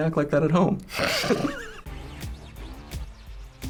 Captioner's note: laughs; snickers